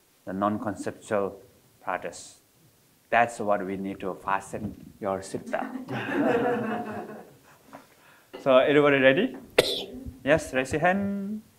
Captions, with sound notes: the non-conceptual practice. That's what we need to fasten your seatbelt. (all laughing) So everybody ready? Yes, raise your hand.